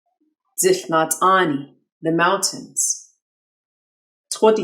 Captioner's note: speaking in foreign language